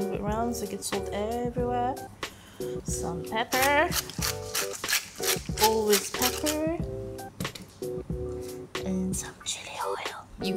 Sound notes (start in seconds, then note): 3.5 pepper grinding